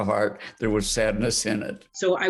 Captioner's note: laughing